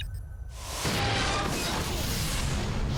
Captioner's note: button beeps; metallic crunch and explosion